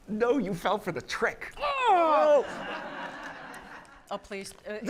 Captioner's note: laughter